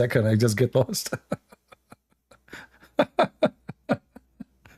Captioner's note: Ketawa